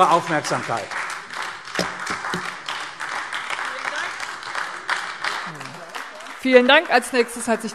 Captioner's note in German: Beifall AfD